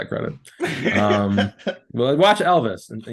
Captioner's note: laughing